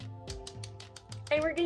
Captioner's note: slappy sounds